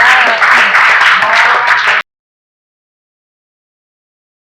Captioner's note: people clapping